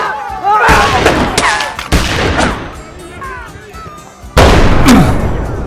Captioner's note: gunshots